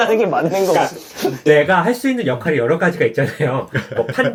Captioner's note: pfft